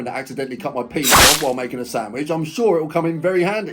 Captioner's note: knife slices